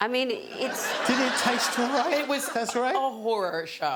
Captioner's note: laughing